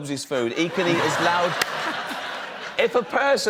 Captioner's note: laughter